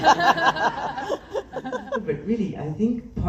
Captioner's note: laughs